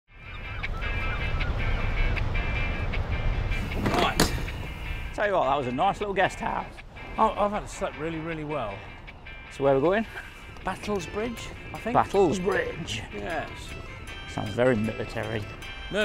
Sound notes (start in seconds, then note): 0.1 seagulls chirping; 0.2 upbeat music